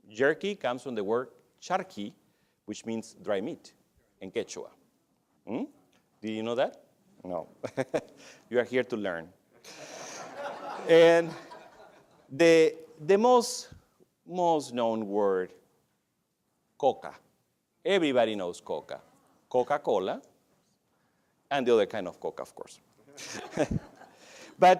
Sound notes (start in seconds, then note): 9.6 laughs; 9.6 laughter